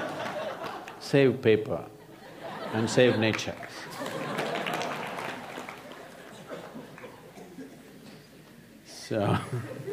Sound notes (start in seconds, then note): 0.0 laughter; 5.7 laughter/Applause